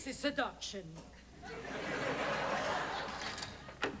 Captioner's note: laughter